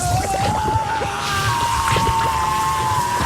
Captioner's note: screaming